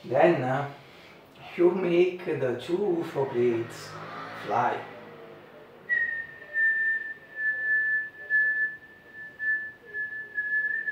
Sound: whistle

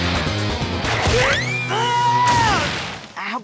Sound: screaming

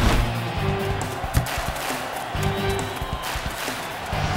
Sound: clapping

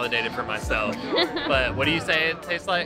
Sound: laughs

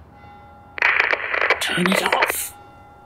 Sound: static

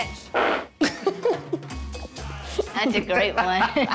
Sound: laughter

